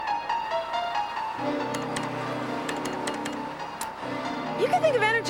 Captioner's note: tapping keypad